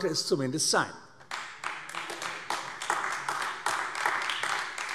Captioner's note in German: Beifall AfD